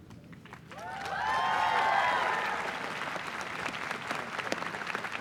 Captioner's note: applause and cheers